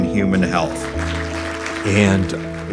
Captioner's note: audience applauding